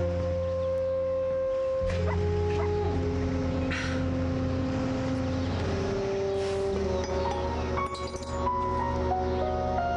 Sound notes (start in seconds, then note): 2.0 dog barks